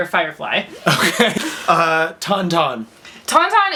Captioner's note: laughs